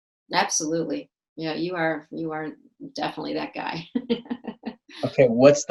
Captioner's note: laughs